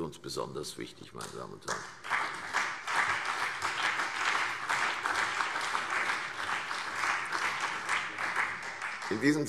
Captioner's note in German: Beifall CDU und BÜNDNIS 90/DIE GRÜNEN